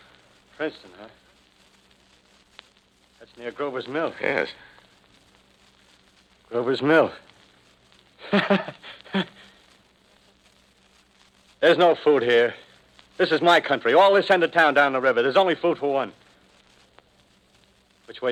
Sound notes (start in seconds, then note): 8.2 laughs as at a great joke